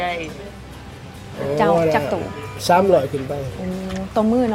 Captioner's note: woman and man speak local language